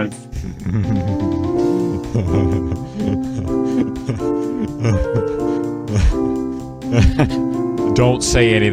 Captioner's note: laughing manically